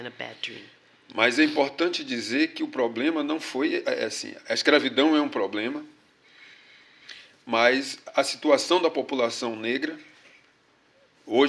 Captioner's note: speaking portuguese